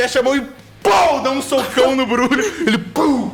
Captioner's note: pow